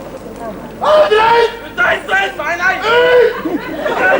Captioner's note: ακούγονται Γερμανικά